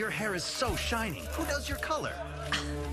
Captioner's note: scoff